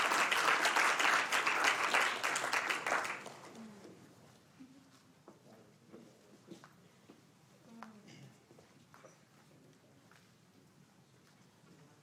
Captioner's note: applause